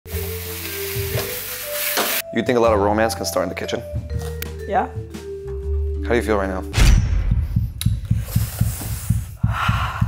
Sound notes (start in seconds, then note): 0.0 sizzling sounds; 6.8 heart beating; 9.4 sighs